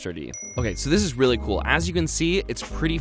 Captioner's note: dings